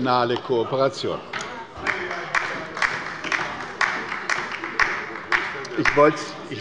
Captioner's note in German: Beifall bei der LINKEN - Lachen und Zurufe von der CDU